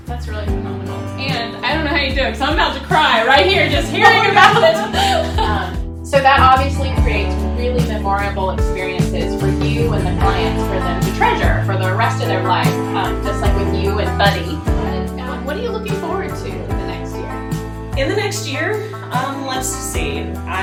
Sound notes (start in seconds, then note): 3.5 laughing